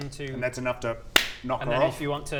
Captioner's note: bam